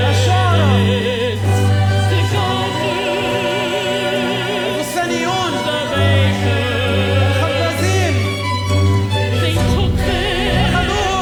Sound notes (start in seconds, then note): 0.3 performer speaking Arabic; 2.5 singer speaking French; 5.2 performer speaking Arabic; 7.7 speaking Arabic